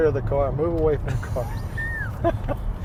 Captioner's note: laughter